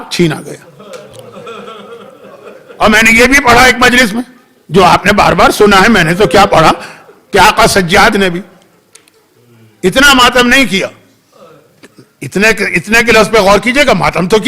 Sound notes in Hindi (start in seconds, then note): 0.6 हंसी; 6.9 गला साफ़ करने की आवाज़